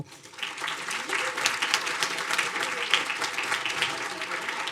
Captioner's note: audience applauding